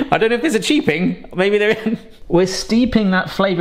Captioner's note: chuckling